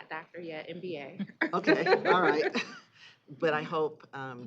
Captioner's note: chuckling